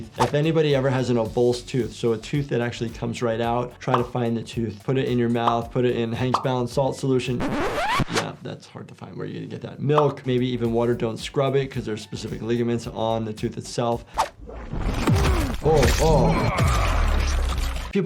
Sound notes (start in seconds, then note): 7.3 disk scratches; 16.0 Omni-Man grunting